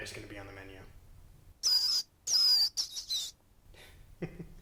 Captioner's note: rat squeaks; laughs